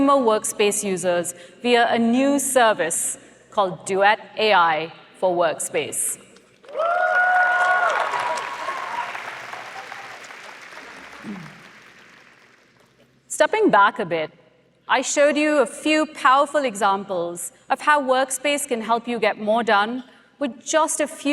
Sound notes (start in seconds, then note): 6.6 applause